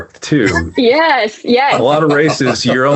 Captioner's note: laughs